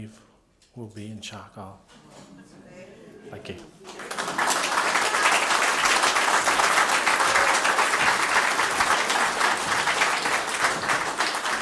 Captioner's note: applause